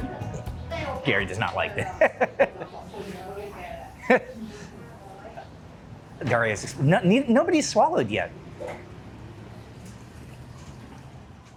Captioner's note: laughing